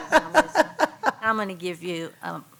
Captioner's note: laughs